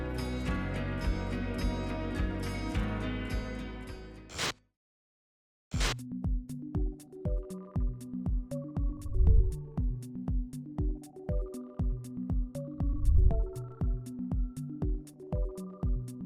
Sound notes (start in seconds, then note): 4.1 static buzzes; 6.3 soft electronic music